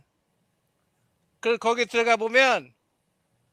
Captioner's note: non-english speech